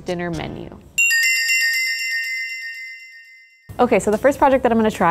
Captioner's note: bells tinkling